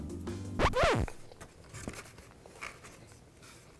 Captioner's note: record scratch